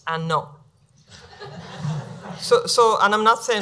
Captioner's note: laughing